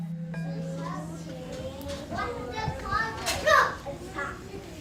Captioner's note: children playing